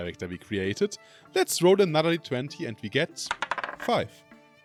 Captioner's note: dice rolling